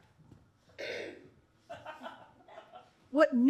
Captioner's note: clearing throat